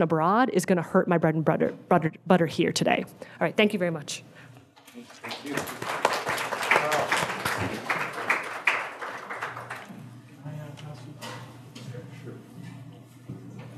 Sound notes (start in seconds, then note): 5.0 audience applauding